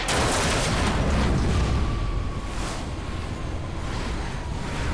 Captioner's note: explosion